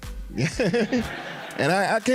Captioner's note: laughing